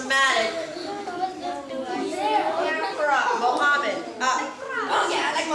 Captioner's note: children talking indistinctly